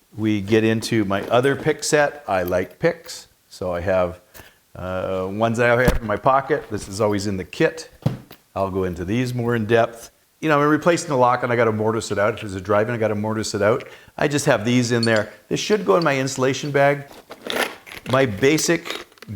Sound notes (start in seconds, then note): 17.4 metal clanging